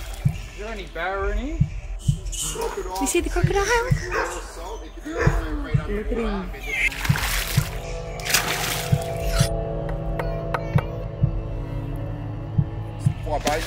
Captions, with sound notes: - You see the crocodile? Look at him. (crocodile splashes) (intense music plays) (knife slicing and chopping)